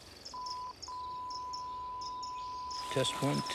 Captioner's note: beeping